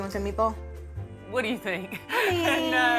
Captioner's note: laughs